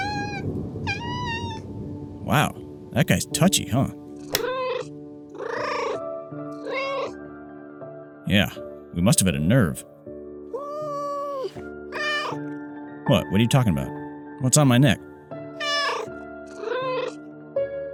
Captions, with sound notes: Wow! That guy's touchy, huh? (Meow) Yeah, we must have hit a nerve. (Yowl, meow) What? What are you talking about? What's on my neck?